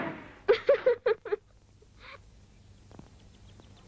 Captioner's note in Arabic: يضحك